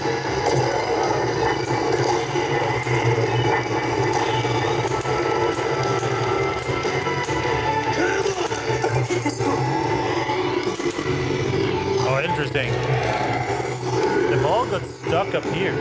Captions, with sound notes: (Engine Revving) Oh, interesting. The ball got stuck up here.